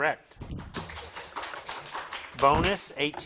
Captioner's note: crowd claps